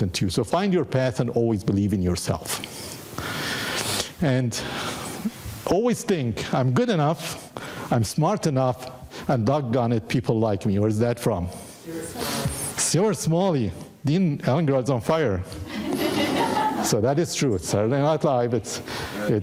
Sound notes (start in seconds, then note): 15.6 audience laughing